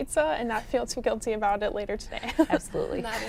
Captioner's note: laughs